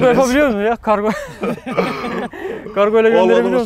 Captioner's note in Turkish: Gülüşmeler